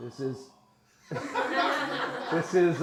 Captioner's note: audience laughs